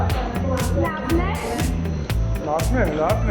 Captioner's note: in Armenian